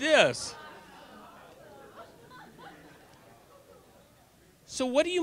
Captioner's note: audience laughter